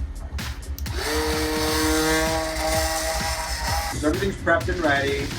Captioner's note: blender whirring